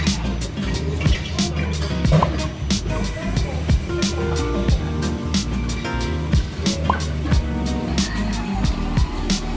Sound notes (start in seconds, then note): 2.1 cup thudding